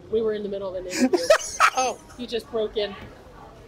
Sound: laughs

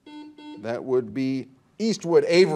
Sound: buzzer dings

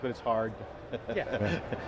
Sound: laughing

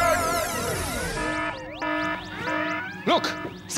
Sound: alarm!

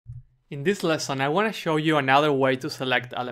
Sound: voiceover

